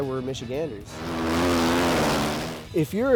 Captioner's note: engines buzzing